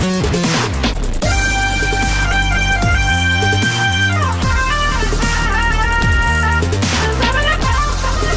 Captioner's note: vocalizing; more vocalizing